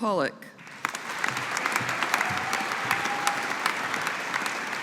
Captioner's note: audience applauding